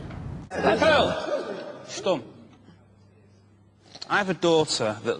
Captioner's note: british exclamation